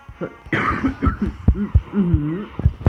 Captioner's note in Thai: ไอ